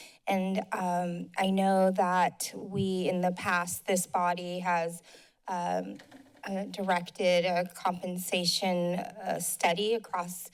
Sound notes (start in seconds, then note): none